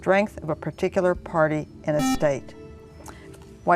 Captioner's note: buzzer